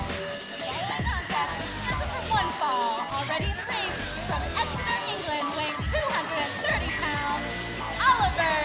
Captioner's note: bell ringing